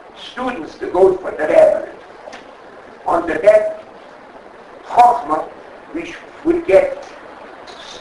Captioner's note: speaking Yiddish